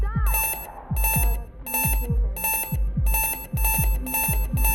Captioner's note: alarm beeping